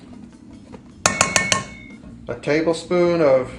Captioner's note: measuring cup bangs